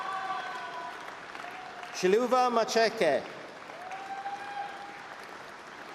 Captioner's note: applause; cheering